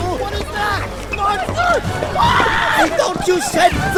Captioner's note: screaming